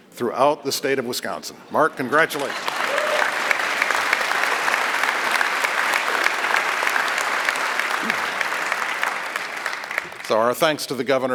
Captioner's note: applause